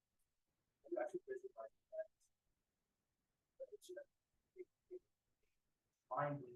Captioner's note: speaking faintly